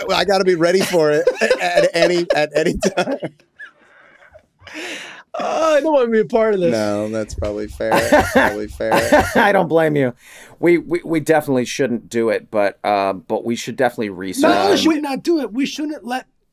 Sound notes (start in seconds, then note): 2.5 all laughing